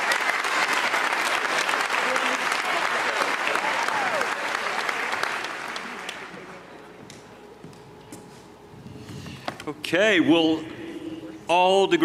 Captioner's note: cheers and applause